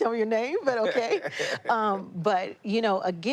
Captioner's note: laughter